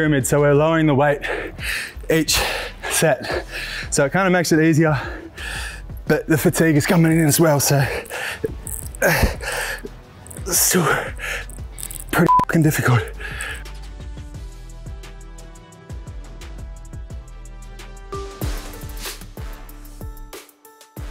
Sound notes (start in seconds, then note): 9.4 beep; 16.9 upbeat music